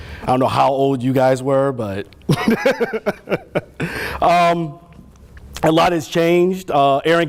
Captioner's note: laughter